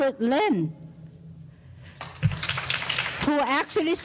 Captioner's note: clapping